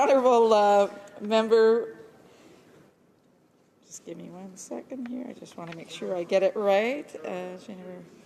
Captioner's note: speaking french